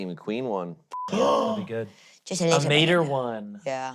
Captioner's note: gasps